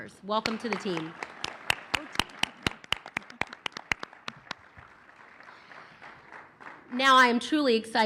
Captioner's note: applause